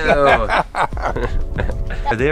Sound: old man laughs

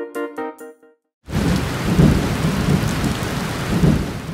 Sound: light, cheerful music; thunder claps, rainstorm

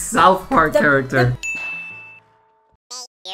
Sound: ding

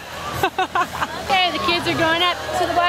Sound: laughing

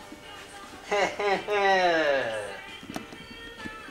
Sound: chuckles

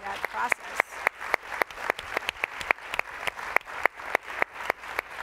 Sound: applause

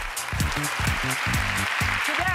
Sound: cheers and applause

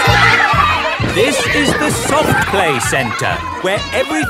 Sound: loudly over shouting

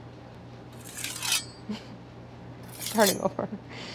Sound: knife scraping

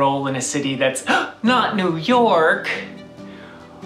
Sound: gasp

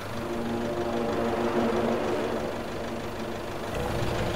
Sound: car engine running

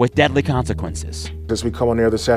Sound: soundbite of archived recording

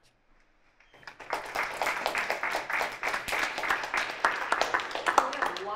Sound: applause

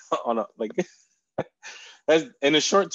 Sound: chuckles

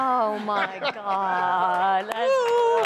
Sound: laughter

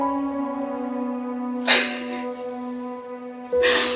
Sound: laughs

